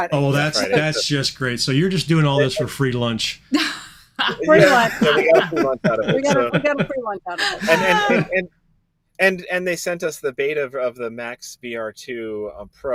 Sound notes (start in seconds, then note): 4.2 chuckling